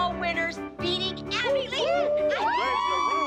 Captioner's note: cheering